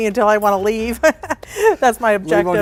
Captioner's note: laughing